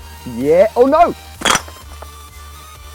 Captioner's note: bricks crash on the floor